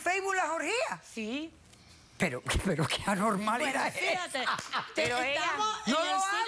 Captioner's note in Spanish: risas